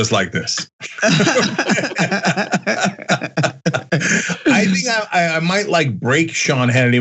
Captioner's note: laugh